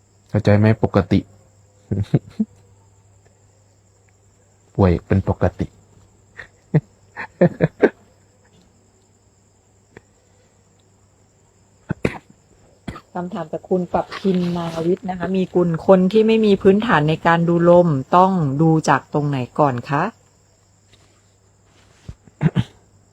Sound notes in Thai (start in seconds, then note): 6.3 เสียงหัวเราะ; 11.8 เสียงไอ